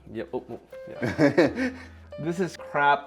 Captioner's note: laughs